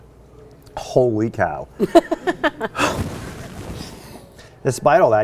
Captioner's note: laughs